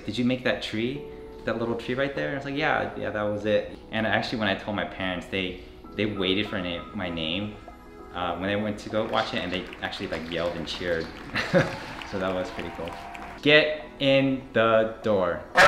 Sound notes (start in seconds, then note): 8.8 applause; 9.0 cheering; 10.0 chuckles; 15.5 barks